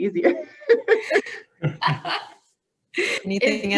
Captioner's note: laughing